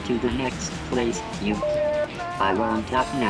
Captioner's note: beeping